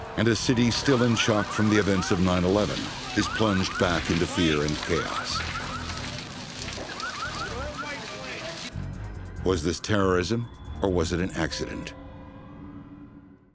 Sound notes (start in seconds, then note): 6.4 fire crackling; 7.0 people chattering